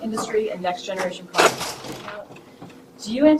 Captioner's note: equipment crashing